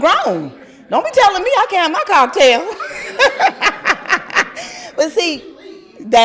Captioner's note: laughter